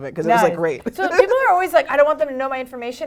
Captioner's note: laugh